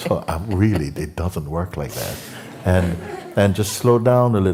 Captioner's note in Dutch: gelach